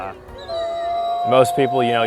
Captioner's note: wolf howling